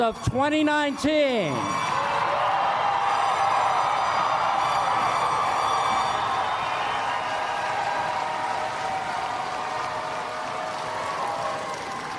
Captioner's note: applause